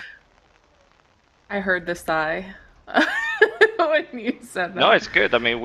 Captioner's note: laughs